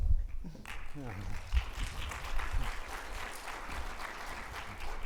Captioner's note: audience applauding